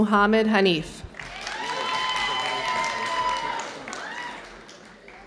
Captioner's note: audience cheering